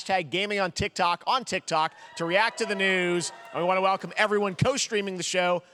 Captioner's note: audience reacting